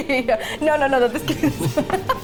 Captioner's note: laughs